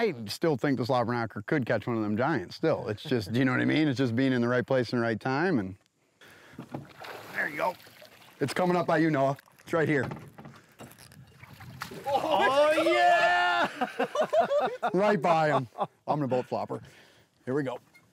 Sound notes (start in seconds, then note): 6.6 water splashes; 15.0 laughs